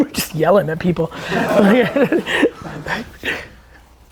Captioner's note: group laughter